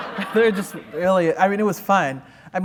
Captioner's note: laughter